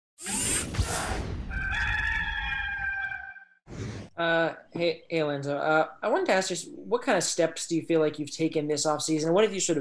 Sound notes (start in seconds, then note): 1.4 cock crowing